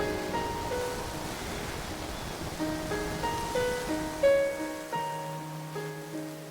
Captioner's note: wind blows; leaves rustle